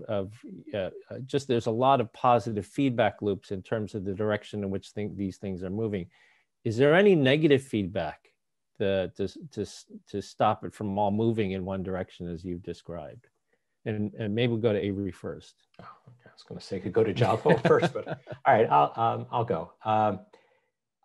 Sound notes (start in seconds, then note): 17.2 laughs